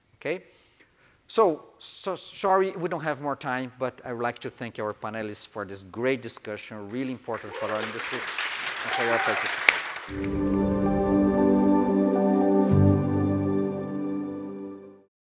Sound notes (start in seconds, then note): 8.8 audience applauding; 10.1 serene music